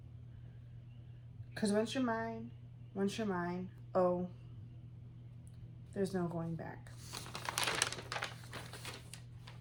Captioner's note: papers rustling LOUDLY